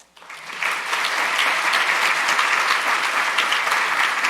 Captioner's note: audience applauding